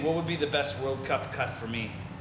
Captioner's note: none